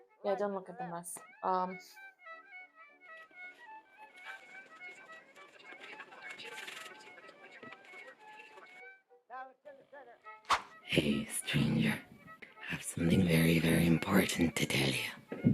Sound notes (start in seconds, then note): 4.2 sound of a felt tip pen on paper; 10.5 swoosh!